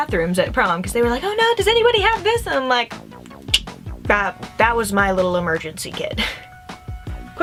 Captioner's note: click